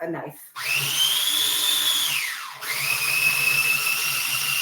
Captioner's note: food processor whirring